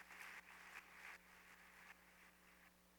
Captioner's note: applause